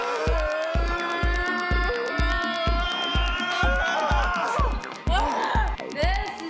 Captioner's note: grunting